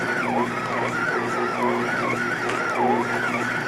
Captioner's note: mixer whirs